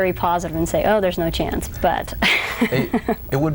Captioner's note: laughs